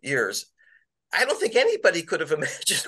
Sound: laughter

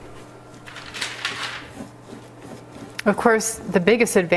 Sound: paper rustling

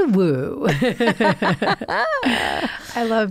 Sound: both laughing

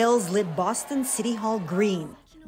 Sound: cheers and Applause

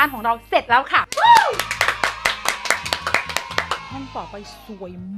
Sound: claps loudly

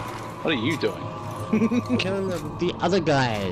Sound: laughs

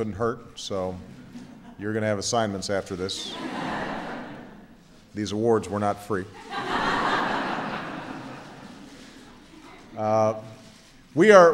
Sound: laughter

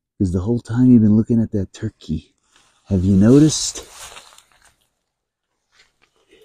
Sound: scratching noises

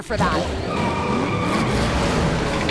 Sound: tires squealing

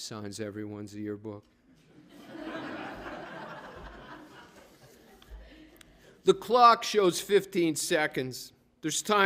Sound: laughter

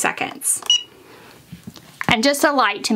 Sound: machine beeps

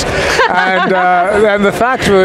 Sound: laughing

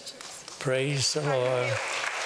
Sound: applause

